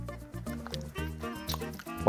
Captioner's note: sip